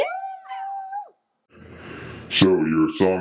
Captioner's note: group cheers